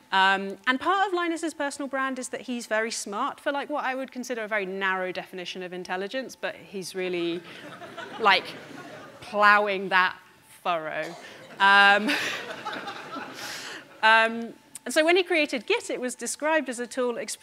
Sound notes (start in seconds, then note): 7.4 audience laughing; 11.9 audience laughing